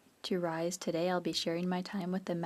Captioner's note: speaking French